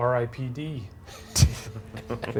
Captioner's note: laughing; group laughing